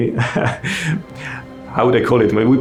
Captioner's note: laughing